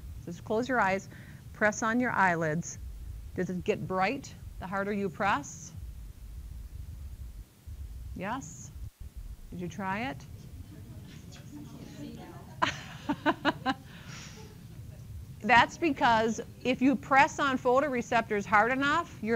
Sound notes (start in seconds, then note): 12.2 laughter